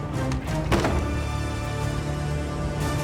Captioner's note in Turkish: Kapı kapanma sesi